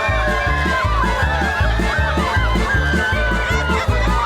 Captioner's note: crowd screaming; loud speaking and music in the background